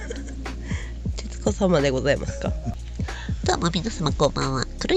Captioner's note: laughs